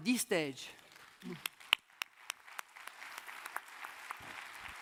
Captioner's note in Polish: oklaski